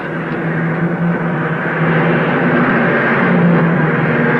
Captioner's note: car revving